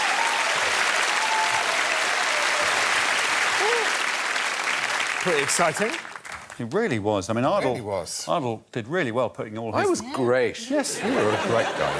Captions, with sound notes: [cheers and applause] Pretty exciting. -It really was. I mean, Ardal-- -It really was. Ardal did really well putting all his--